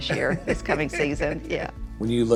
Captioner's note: laughing